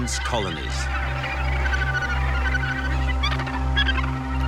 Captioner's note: gannets squawking